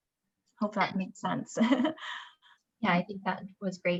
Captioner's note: chuckles